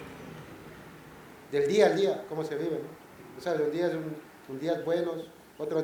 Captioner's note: speaking spanish